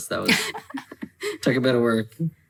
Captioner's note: laughing